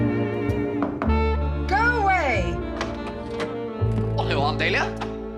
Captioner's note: knocking